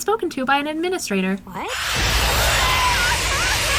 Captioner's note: screaming